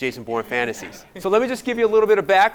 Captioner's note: audience applauding